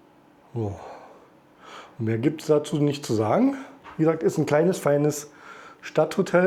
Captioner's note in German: seufzt